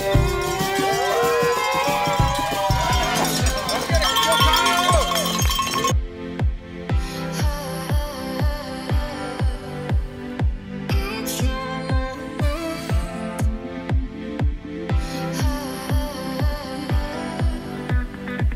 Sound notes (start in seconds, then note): 0.0 cheering